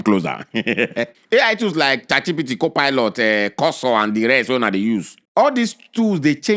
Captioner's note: laughs